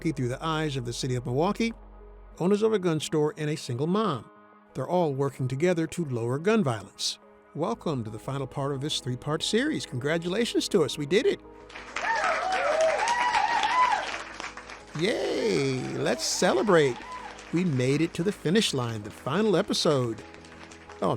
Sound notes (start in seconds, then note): 11.7 people cheering and clapping